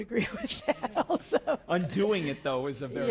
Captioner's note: laugh